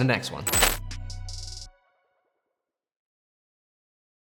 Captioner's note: metal clanking